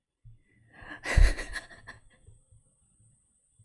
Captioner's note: laughs